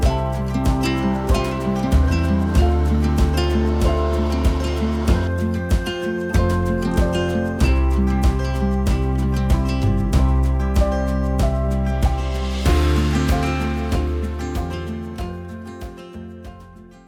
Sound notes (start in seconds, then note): 1.5 machine whirling; 2.8 inspirational rhythmic music